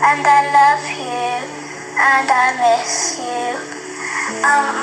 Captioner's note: none